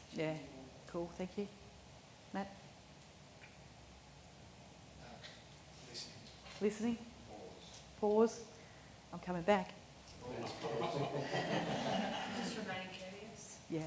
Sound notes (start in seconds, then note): 10.6 audience laughing